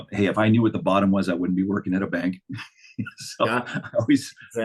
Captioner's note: chuckling